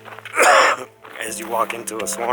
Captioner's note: coughs